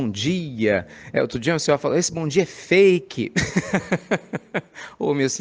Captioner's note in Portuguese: risadas